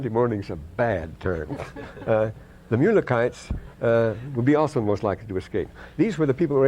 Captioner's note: laughter